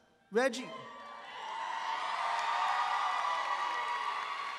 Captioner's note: audience applauds